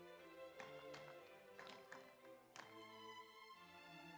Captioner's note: audience applauds